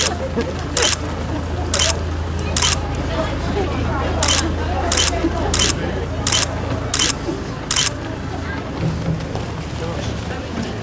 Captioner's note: camera shutter clicks